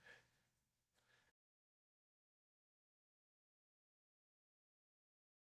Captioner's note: silence